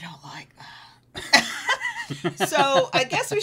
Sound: both laughing

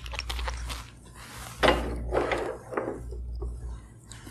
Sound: plastic rubbing; clunk

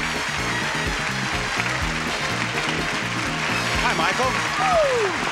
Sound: applause; upbeat music

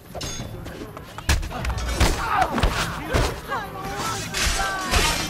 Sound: fighting sounds

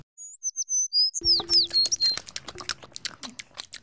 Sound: munching

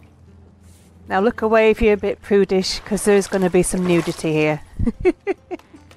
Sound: laughs

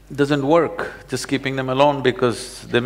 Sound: none

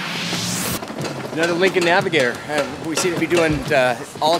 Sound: luggage clattering

